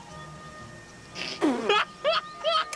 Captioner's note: laughing